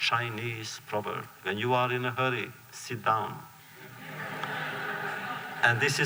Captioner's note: laughter